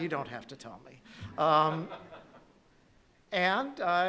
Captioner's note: laughing